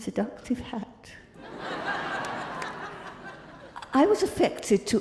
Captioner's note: crowd laughing